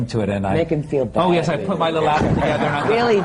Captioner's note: laughter